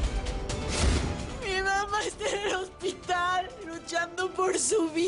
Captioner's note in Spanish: Llorando